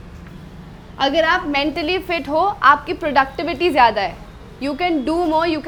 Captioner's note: speaks in Hindi